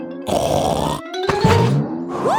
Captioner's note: snorts